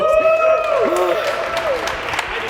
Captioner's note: cheering